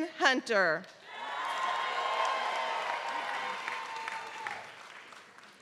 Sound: applause

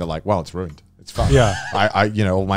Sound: laughing

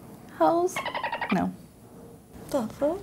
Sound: dolphin squeals

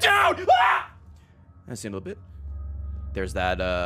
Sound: screams

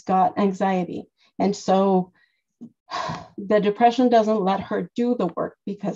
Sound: sighs

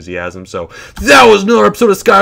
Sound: inhales

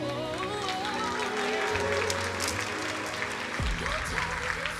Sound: crowd applauding

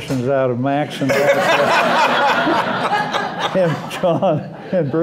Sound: laughter

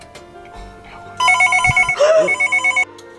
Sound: phone rings

